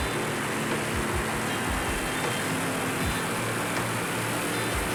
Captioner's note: engines winding down